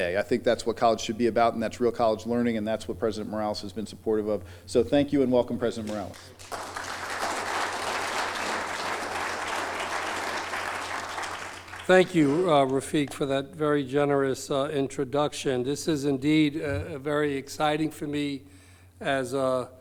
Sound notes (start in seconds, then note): 10.4 applause